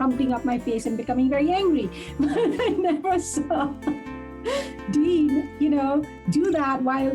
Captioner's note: laughs